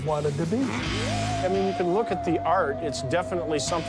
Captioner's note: UFO sounds